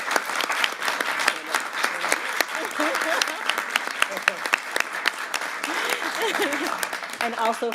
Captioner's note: applause